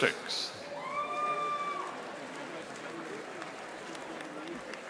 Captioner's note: audience applauding